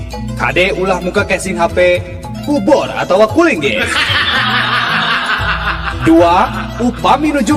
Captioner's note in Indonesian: tertawa